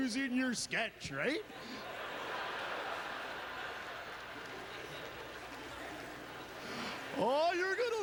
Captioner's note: audience laughter